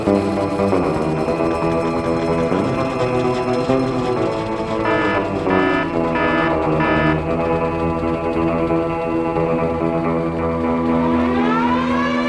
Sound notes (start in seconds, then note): 4.7 buzzer blares; 8.5 upbeat western music